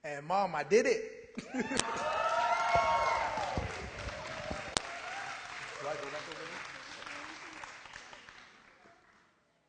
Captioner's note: applause